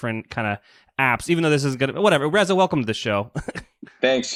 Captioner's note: laughs